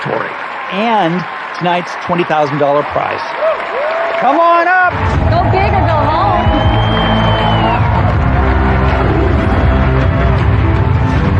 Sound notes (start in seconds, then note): 7.0 cheering and applause